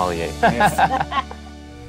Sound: laughs

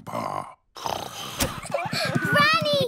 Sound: snoring

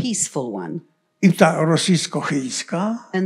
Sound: foreign language

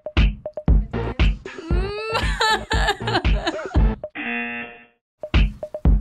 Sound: laughs; buzzer

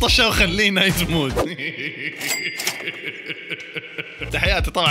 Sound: laughter

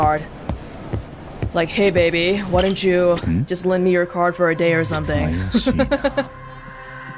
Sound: chuckles

